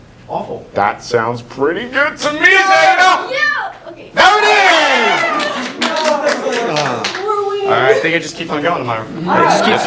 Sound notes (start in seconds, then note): 4.1 red team cheer; 4.2 start cheering; 5.1 clapping